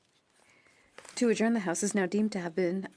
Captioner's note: speaking French